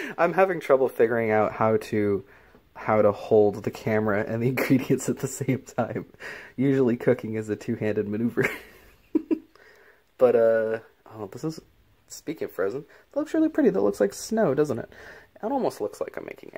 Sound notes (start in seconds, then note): 9.6 laughs